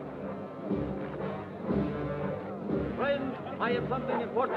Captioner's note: serious music; crowd chattering